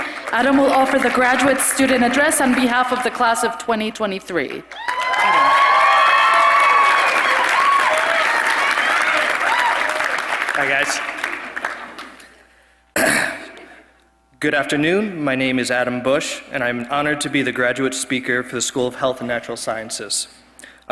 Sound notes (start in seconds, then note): 4.7 applause; 12.9 cough